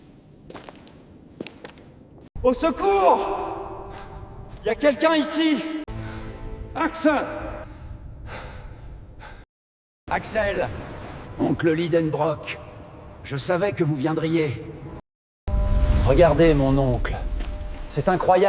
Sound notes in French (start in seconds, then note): 8.2 soupir